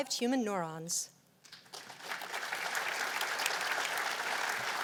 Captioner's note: applause